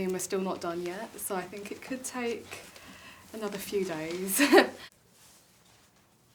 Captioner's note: laughs